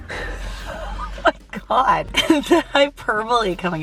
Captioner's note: laughs